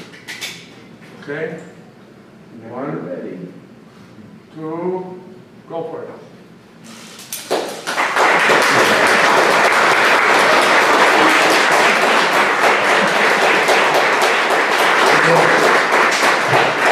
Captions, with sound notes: Okay. Go for it. (applause)